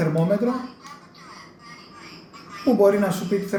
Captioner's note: female electronic voice